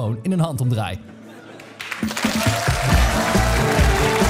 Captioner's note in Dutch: applaus